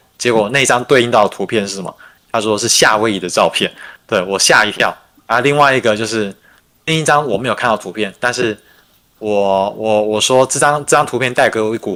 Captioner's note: non-english speech